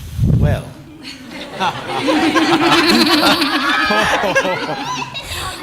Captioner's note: laughter